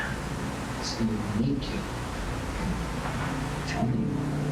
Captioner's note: whispering